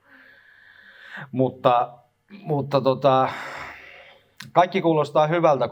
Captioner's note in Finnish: huokaus